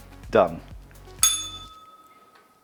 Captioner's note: bell rings